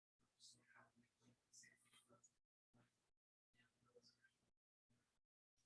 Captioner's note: people chattering indistinctly